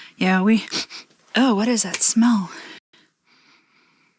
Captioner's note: sniffs; sniffs